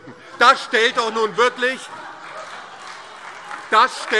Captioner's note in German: Heiterkeit und Beifall DIE LINKE, SPD und Freie Demokraten